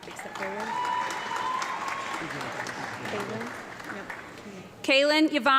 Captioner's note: audience clapping